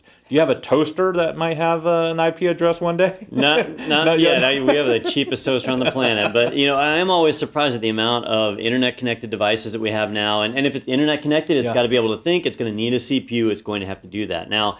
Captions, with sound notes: Do you have a toaster that might have an IP address one day? [LAUGH] Not yet. Not yet? [LAUGH] We have the cheapest toaster on the planet, but I am always surprised at the amount of Internet connected devices that we have now. And if it's internet connected, it's got to be able to think, it's going to need a CPU, it's going to have to do that now.